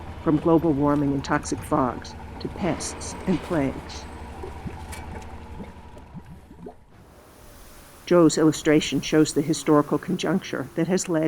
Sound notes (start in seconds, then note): 4.0 liquid bubbles